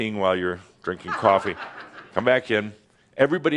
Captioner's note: a few giggles